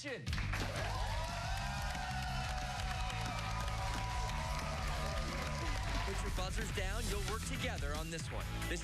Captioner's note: cheers and applause